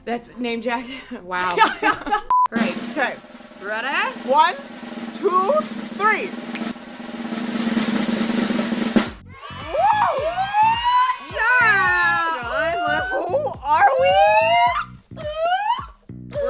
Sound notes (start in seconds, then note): 1.5 laughs; 2.3 beep; 4.4 drumroll; 7.4 snap; 9.2 fake kids cheering; 14.6 whooping